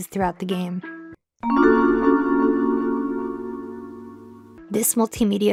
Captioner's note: Tomb Raider Sound Effect